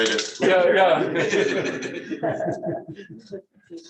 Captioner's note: laughter